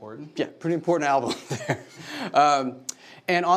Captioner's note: laughs